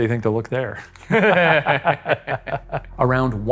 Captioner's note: both laughing